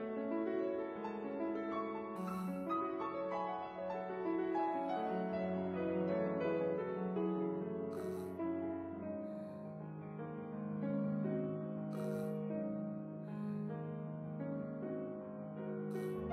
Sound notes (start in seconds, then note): 11.8 gasp